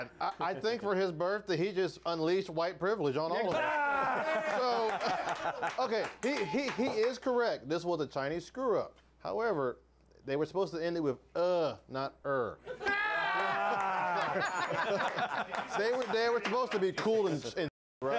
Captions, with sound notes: - OH MY GOD! I THINK FOR HIS BIRTHDAY, HE JUST UNLEASHED WHITE PRIVILEGE ON ALL OF US. [Applause] HE IS CORRECT. THIS WAS A CHINESE SCREW-UP. HOWEVER, THEY WERE SUPPOSED TO END IT WITH "UH", NOT "ER".